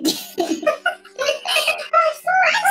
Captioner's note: laughs